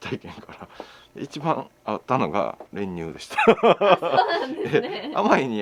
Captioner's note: laughs